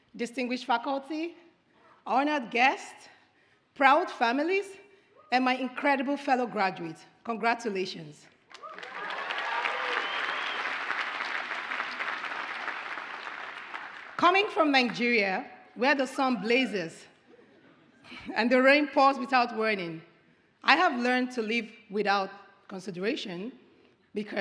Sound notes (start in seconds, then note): 8.5 audience applauds